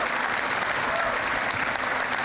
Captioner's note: cheering